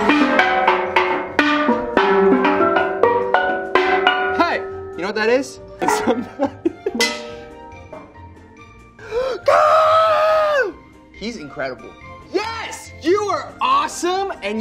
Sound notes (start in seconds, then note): 5.9 laughs